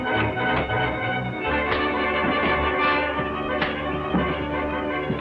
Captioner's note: punches landing